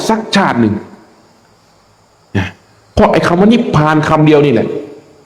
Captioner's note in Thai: เสียงหัวเราะ